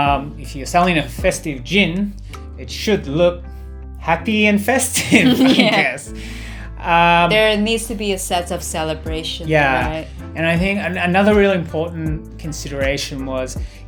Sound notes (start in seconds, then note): 4.9 laughter